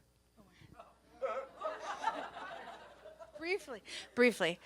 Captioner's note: audience laughs